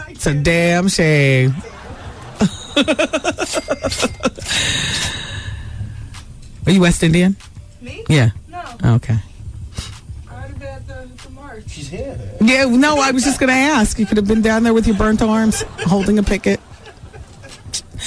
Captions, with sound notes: It's a damn shame. [LAUGHTER] Are you West Indian? Me? Yeah. Okay. I had a bad time tomorrow. She's here. No, I was just going to ask. You could have been down there with your burnt arms holding a picket.